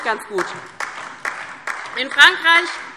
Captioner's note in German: Beifall DIE LINKE